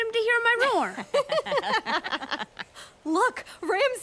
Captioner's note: laughing